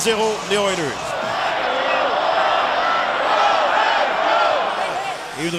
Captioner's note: fans chanting